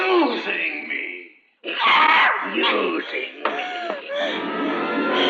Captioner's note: screams; tense music